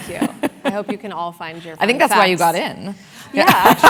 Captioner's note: laugh